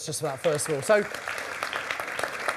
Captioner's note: audience applause